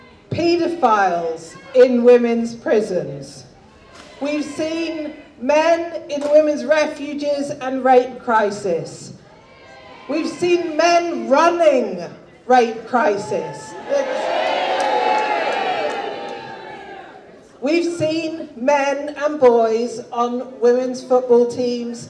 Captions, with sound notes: paedophiles in women's prisons. We've seen men in women's refuges and rape crisis. We've seen men running rape crisis. [audience jeers] We've seen men and boys on women's football teams,